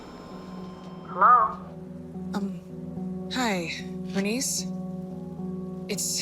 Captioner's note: on phone